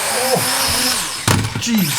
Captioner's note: smack